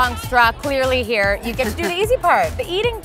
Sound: laughs

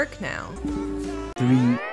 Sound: error Sound

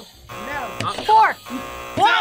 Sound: buzzer rings; buzzer

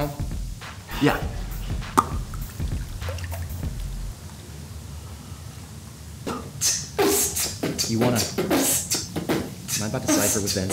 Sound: smacks; beatboxing

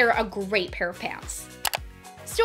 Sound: click

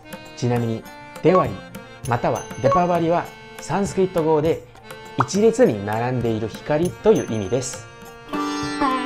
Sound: Hindi

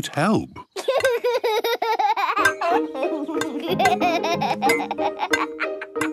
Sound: laughs

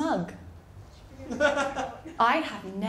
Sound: laughter

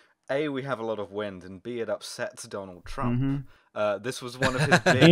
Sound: laughter

